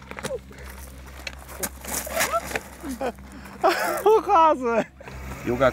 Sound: laughing

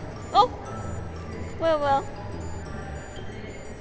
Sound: beep! Beep! Beep!

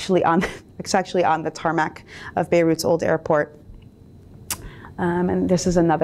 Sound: chuckles

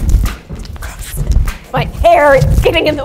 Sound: jump rope slaps floor

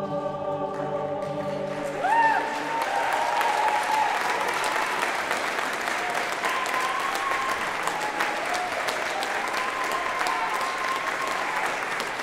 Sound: applause

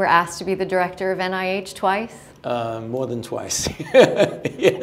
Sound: laughter

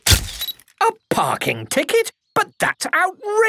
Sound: camera click

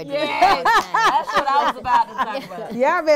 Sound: laughs

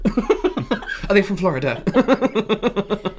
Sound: laughter

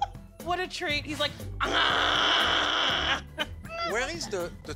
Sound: imitates croaking

